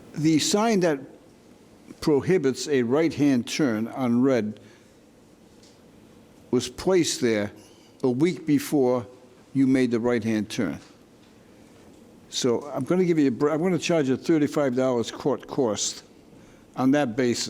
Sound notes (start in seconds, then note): none